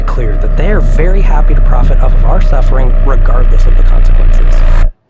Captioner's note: humming intensifies